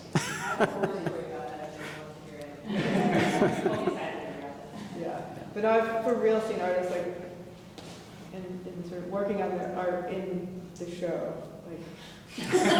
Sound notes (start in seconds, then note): 2.7 audience laughing; 12.4 laughing